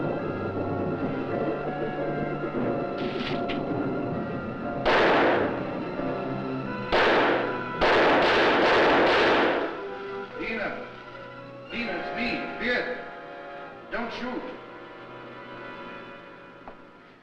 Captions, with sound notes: (rustling) (gunshot fires) (gunshot fires) (gunshots fire) - Dina. Dina, it's me, Viet. Don't shoot.